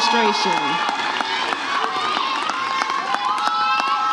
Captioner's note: audience cheers